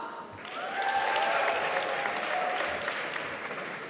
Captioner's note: applause